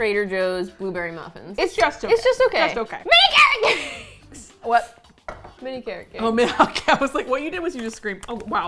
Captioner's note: shrieking